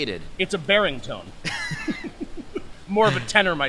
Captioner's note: laugh